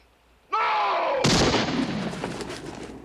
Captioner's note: gunshot